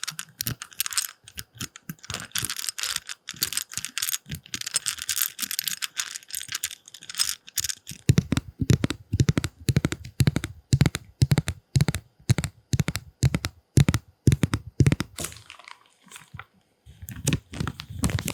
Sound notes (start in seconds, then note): 8.3 tap tap